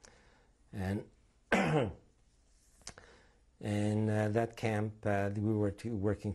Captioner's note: coughs